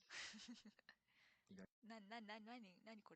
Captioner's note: laughs